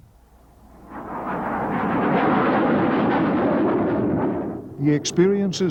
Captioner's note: jet engine roaring